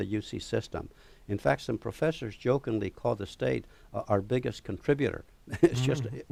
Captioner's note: laughter